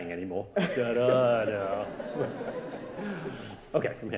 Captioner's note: audience laughing